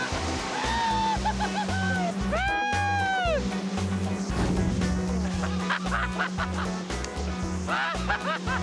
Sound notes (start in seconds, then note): 0.6 laughing; 5.8 laughter